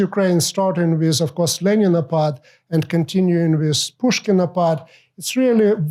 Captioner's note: non-english